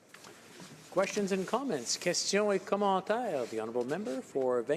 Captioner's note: none